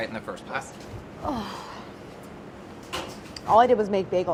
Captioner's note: sighs